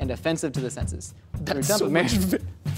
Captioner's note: laughs